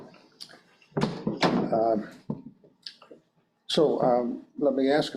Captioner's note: door thuds